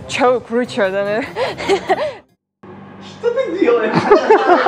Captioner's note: laughing